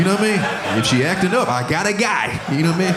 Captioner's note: audience laughing